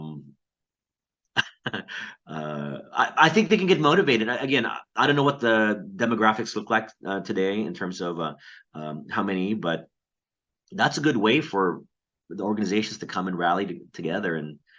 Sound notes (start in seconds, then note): 1.3 chuckles